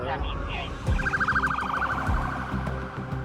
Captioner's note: sirens blaring